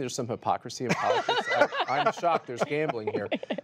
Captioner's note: laughter